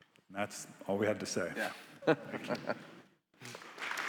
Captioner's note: laughs; attendees clapping